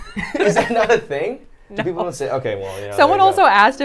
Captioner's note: laughs